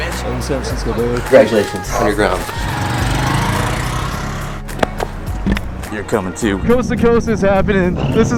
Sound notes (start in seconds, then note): 2.2 motorcycle engine roaring